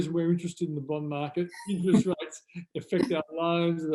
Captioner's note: both laugh